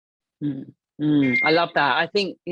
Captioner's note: phone dinging